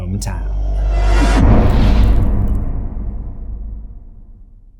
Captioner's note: impact